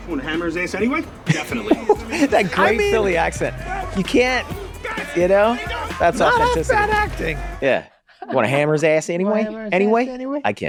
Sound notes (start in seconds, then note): 1.2 Glenn laughing